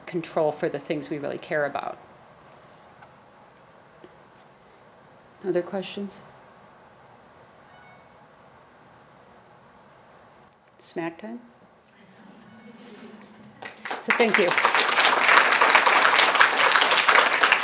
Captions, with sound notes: control for the things we really care about. Other questions? Snack time? (laughter) So thank you. (applause)